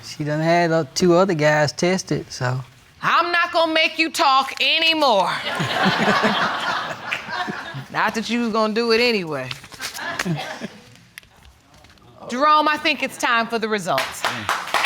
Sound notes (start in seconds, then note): 5.4 audience laughing